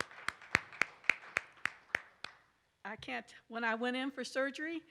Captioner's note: participants applaud